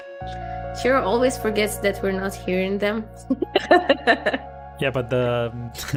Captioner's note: laughs